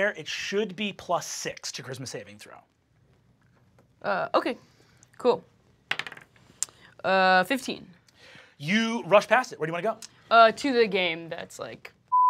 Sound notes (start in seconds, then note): 5.9 die clatters; 12.1 beep